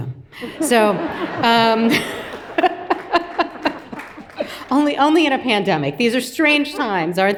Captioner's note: everyone laughs